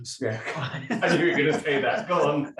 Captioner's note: both laughing